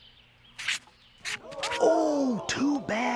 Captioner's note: crowd gasps